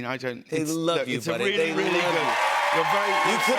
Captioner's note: cheers and applause